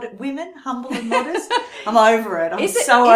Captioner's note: laughs